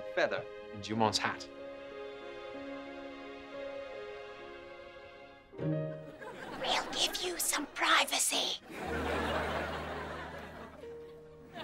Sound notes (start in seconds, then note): 1.8 romantic music; 6.1 whispering loudly